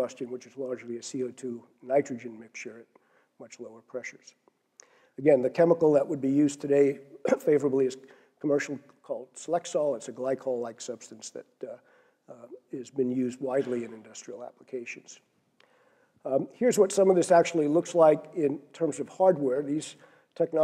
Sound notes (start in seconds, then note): 7.2 cough